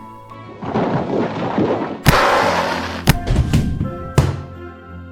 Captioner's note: rumbling and hitting sounds